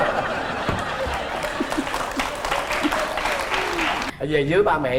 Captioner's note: laughing and applause